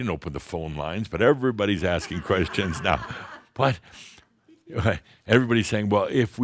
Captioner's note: some laughter